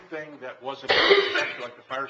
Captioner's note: coughing